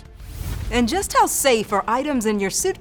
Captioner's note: swooshing